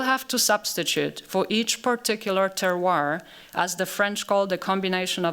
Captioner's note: french